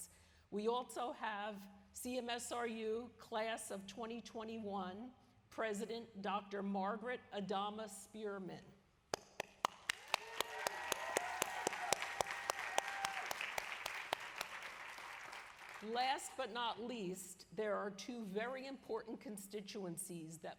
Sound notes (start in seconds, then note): 9.1 applause